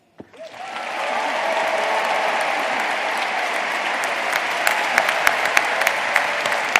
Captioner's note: crowd applauding